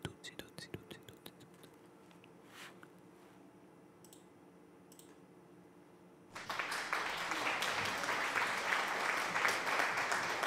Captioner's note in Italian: Applauso